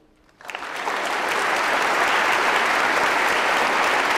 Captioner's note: applause